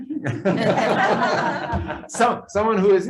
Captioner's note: all laughing